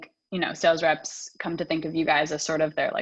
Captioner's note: none